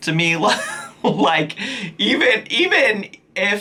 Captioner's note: giggles